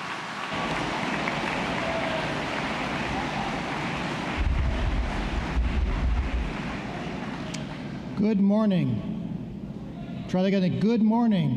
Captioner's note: applause